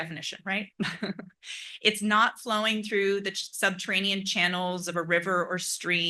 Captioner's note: laugh